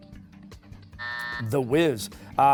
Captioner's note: buzzer